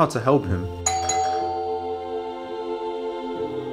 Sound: doorbell rings; uplifting music

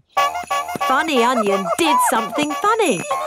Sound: shoes honking

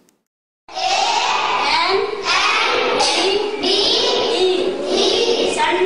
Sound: children speaking in Hindi

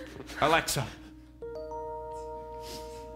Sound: Alexa chime

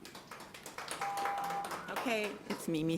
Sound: audience applauding lightly

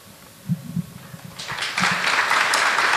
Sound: applause

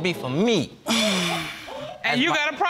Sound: exhales

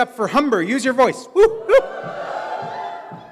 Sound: audience cheers

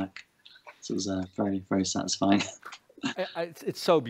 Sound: chuckles

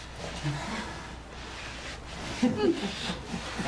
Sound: man is laughing

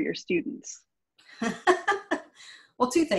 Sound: laughs

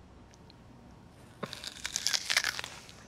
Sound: crunches

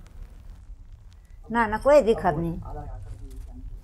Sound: speaking jaunsari-garhwali

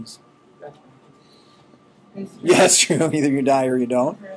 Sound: laughing

